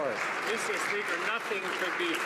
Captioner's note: some Applause